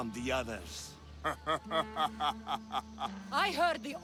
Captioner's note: laughs